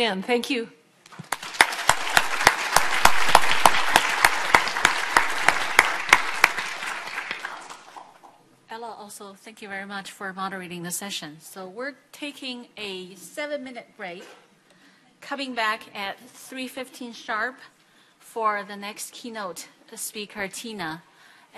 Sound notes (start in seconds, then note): 1.1 audience applauding